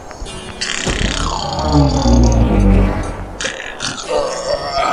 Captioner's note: turtle roar